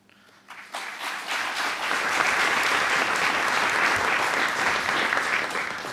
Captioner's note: applause